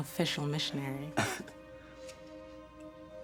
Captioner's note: laughs